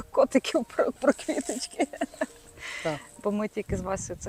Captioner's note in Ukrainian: сміх